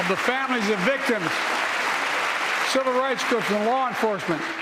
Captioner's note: applause